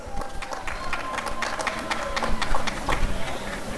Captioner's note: applause and cheering